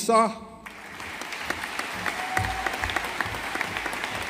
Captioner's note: audience applauding